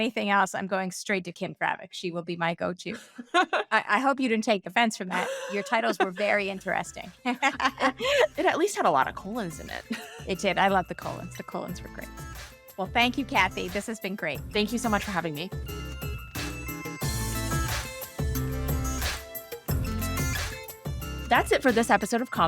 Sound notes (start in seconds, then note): 3.0 theme music in; 7.2 laughing; 16.9 theme music up, then under